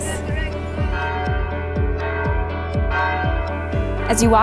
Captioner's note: church bells ringing